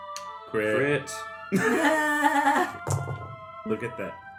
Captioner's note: dice roll and laughter